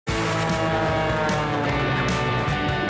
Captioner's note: airplane whirring; upbeat music